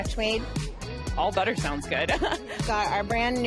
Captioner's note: laughs